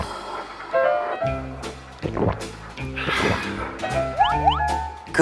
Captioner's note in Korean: 꿀꺽꿀꺽